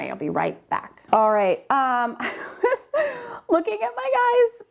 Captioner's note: chuckles